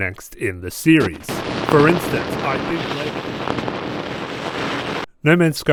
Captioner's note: static Glitching